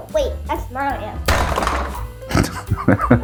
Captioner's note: bonk!